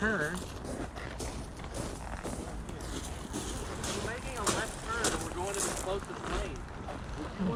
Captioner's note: footsteps in gravel